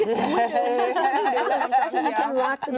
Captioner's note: everyone laughing